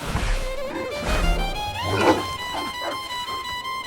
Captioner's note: barking